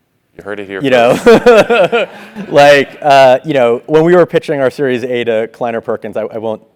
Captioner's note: laugh